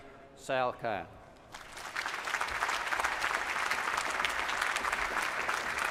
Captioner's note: applause